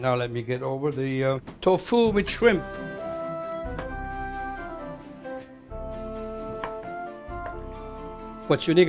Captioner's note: chopping